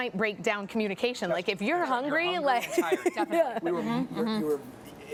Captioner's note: laughs